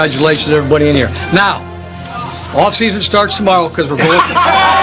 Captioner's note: cheers and applause